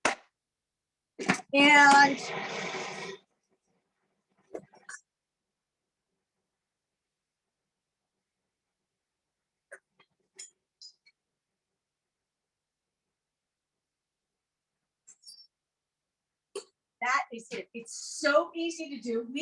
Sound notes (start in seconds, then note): 1.6 blender whirring